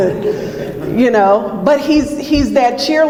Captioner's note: audience laughs